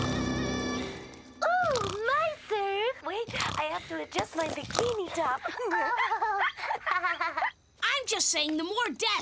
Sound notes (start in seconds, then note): 1.4 on TV; 5.0 girls giggling